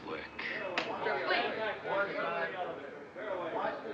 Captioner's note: reporters Chattering